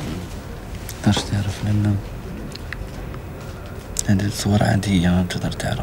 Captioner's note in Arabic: يتحدث باللغة الأجنبية